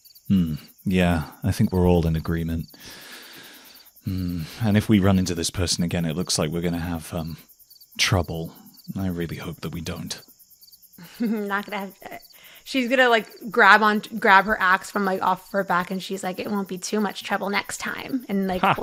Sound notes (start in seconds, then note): 4.0 sighs; 11.0 chuckles